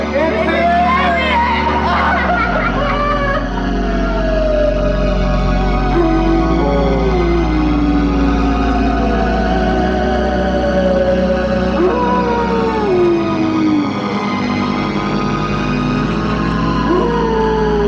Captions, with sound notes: - Hey, it's the aliens. - Aliens. (crowd laughs) (ominous sci-fi music) (wolf howling)